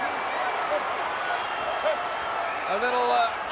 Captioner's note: audience applauding and cheering